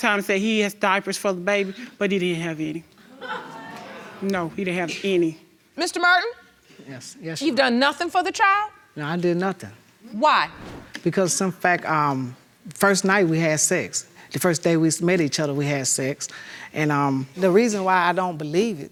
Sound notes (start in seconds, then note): 3.2 audience exclaiming